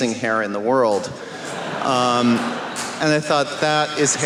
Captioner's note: laughter